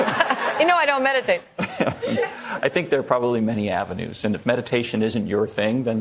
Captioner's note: laughter